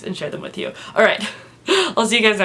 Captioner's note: laughs